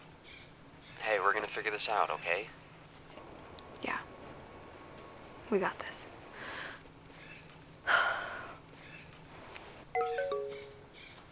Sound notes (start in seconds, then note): 7.8 sighs; 9.9 phone chimes